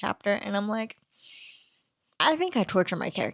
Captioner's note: deep inhale